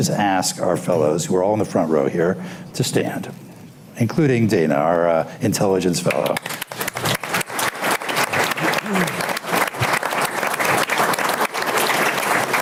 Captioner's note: applause